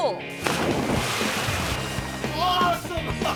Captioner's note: water splashes; laughs